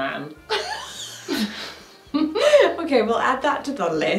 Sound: both laughing

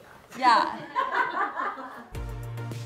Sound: laughing; upbeat music

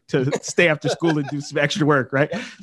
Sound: laughing

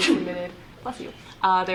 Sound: audience member sneezing

